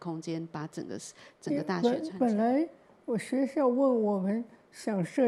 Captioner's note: Mandarin